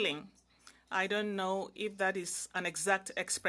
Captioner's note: speaking in French